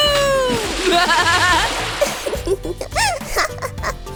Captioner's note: chuckling